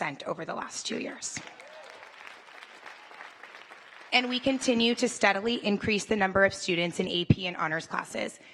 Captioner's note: applause